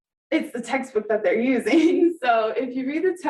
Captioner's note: laughing